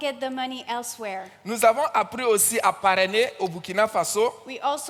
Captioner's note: continues in French